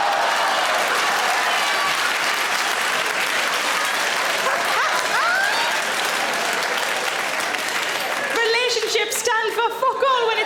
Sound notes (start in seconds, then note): 0.2 audience applauds; 4.5 Sarah laughs; 4.5 audience applauds